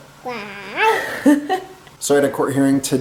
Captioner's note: laughing